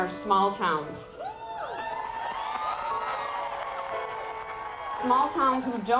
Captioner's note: audience clapping and cheering